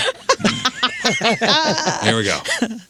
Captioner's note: laughing